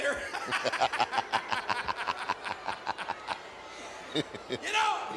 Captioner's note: Ted and Jerry laugh